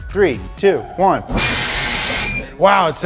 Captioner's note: machine whizzing